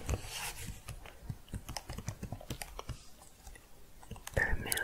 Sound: typing

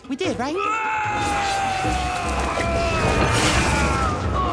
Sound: screaming

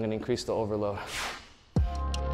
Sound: whooshing; hiphop music

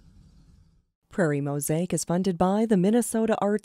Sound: voiceover

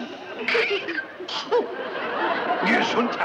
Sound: Joan sneezes

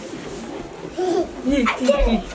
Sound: giggles

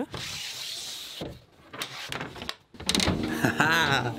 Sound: door scraping

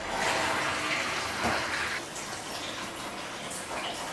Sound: faucet running

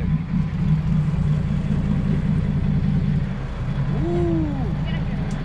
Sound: boat engine idling

